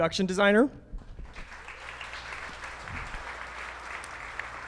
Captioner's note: audience clapping